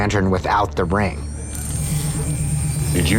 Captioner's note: ring humming